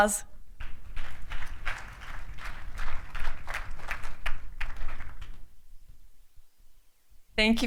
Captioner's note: applause